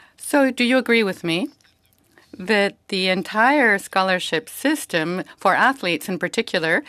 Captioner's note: speaking French